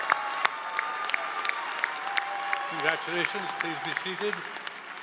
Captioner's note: applause